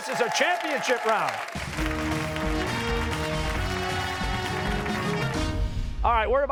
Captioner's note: cheers and applause